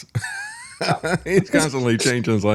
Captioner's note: laughs